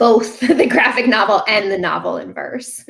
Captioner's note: chuckling